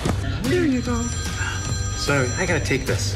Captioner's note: phone ringing